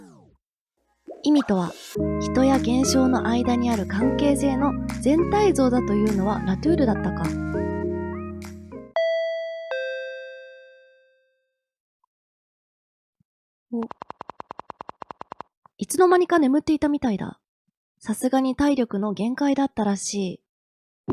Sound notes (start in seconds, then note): 8.6 intercom sound